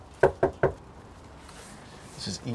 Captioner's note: door knocking